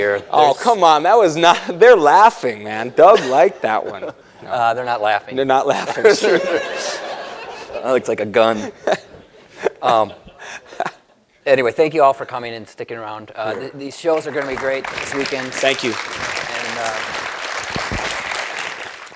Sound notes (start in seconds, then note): 7.4 laughter; 14.2 applause